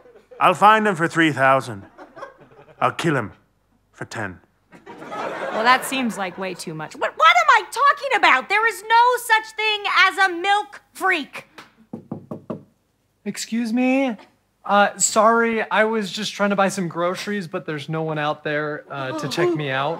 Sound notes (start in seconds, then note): 11.8 knocking